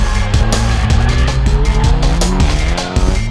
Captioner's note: engine revs; tires squealing; engine revs